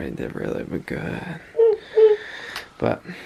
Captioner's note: excited noise